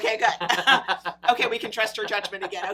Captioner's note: laughs